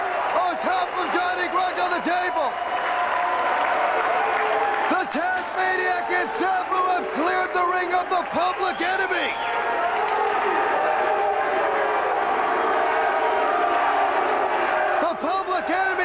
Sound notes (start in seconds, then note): 11.8 crowd chatter